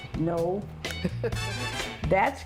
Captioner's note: laughs